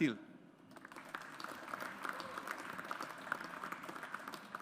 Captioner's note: audience applauds